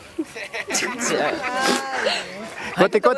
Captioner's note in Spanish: risas